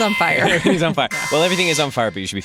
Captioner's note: emergency sirens